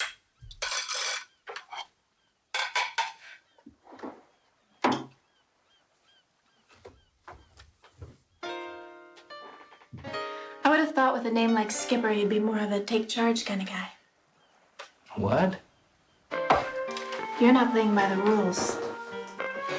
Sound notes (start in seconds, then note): 0.9 cutlery clanking; 6.5 footsteps crunching; 8.3 gentle music